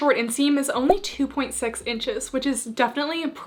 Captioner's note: graphics beeping